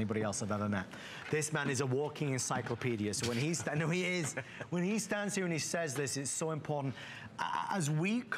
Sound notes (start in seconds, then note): 3.7 laughter